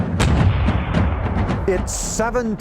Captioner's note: drums sounding; guns cracking